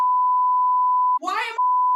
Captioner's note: beep